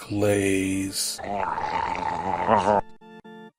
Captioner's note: Homer Simpson Drooling FX